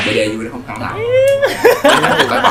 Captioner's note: laugh